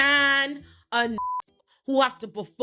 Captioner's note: beep